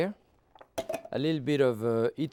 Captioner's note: can clatters